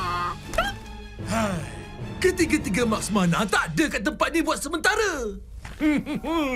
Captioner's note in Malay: mengeluh; ketawa